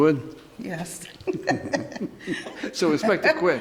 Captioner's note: laughing